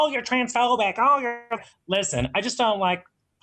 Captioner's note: distorted computer voice